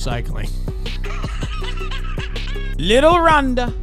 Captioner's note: laughing